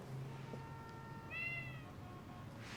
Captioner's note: meowing